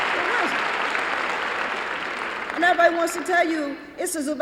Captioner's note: applause